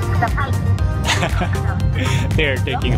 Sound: chuckles

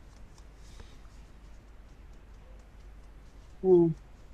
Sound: fingers tapping softly

